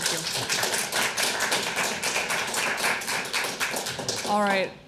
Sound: audience applauds

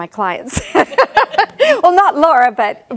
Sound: laughs

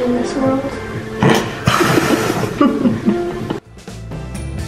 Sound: laughing

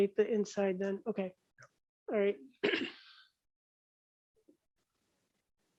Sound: clears throat

